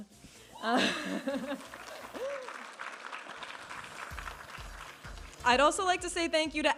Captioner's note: audience applauding and cheering